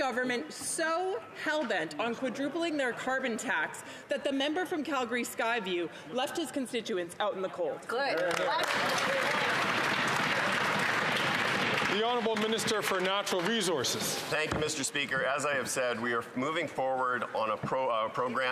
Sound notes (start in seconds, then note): 12.2 applause